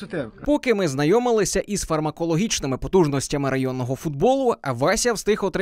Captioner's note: voiceover